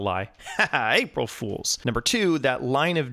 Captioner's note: man laughs